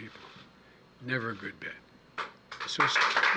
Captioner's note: applause